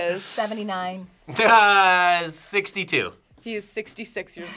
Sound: laughs

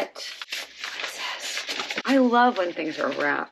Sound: whispering

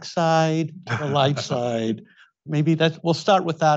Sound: Tom chuckles

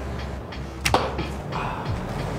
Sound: arrow impacts; quietly

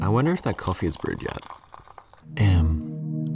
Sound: coffee dripping

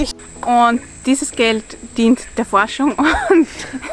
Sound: laughs

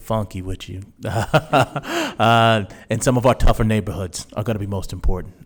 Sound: laughs

